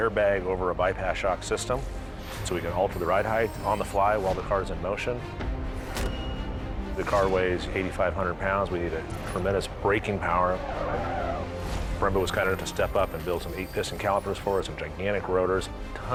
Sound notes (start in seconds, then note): 9.9 tires screeching